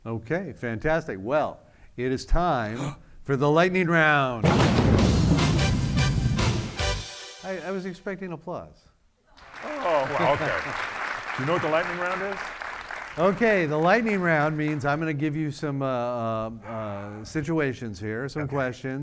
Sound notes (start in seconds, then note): 4.4 thunder booming; 9.4 audience clapping; 9.7 laughing